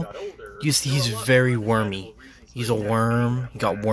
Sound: sobbing

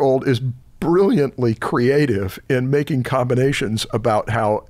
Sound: none

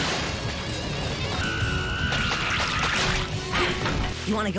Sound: screams in Flying Fish Monger

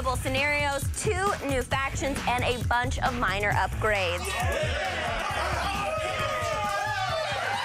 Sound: cheers

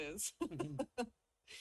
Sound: laughs

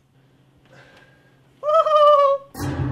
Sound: goofy laugh

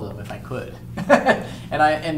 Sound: laughs

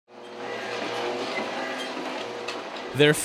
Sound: mechanical whirring

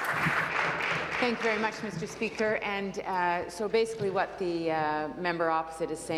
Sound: applause

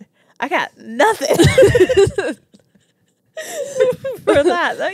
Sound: both laugh

